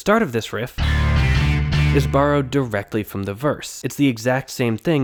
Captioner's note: bang